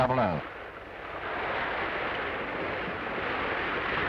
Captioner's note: wind howling